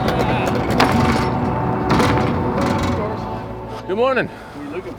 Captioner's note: door clatters